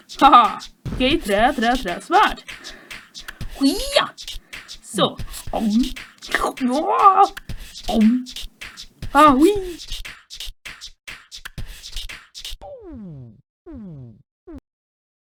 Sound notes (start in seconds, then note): 3.5 some ninja noise I suppose